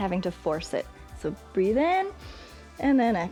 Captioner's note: exhales; inhales